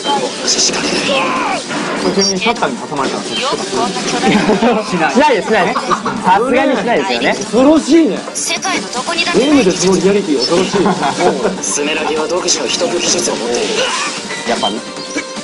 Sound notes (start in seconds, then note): 5.6 drone